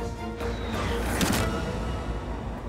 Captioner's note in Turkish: Ok saplanma sesi